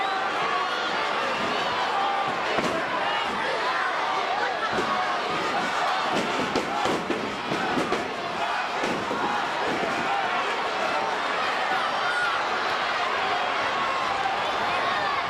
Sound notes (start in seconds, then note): 7.8 crowd chattering; 7.8 stage clattering